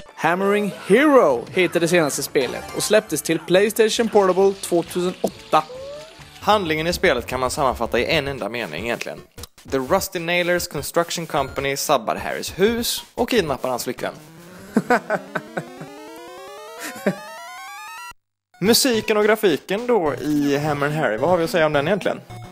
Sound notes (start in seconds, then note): 14.4 laughs